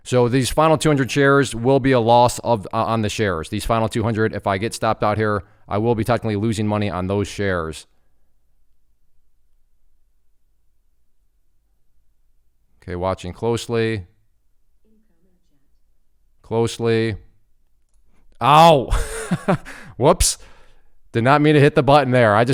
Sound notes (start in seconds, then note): 18.8 laughs